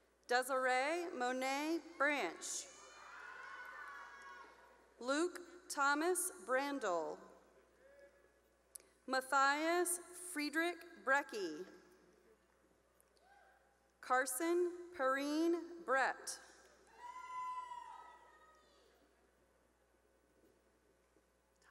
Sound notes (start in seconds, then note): 2.7 cheering; 7.7 cheering; 12.5 cheering; 16.9 cheering